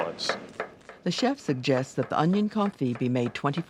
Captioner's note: voiceover